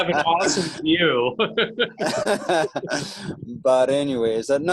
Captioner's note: laughter